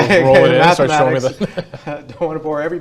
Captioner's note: laughter